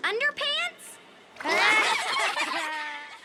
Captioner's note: kids laugh